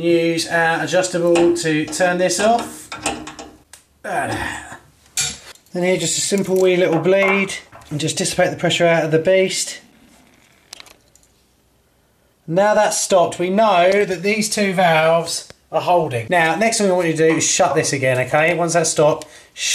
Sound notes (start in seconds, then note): 4.0 groans